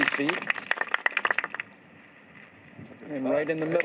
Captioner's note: applause